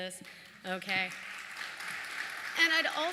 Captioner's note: applause